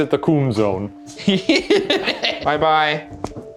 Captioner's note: laughing